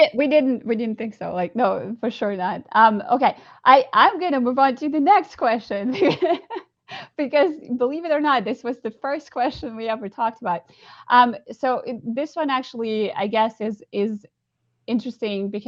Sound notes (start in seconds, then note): 5.9 laughs